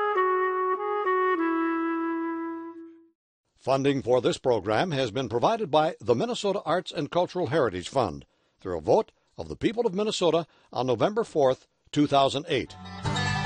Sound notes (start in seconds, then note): 3.7 voiceover; 12.8 bluegrass music